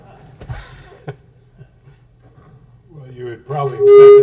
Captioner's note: audience laughs; laughs